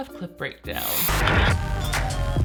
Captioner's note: radio static; upbeat music